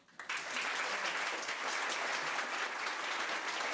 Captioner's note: crowd applause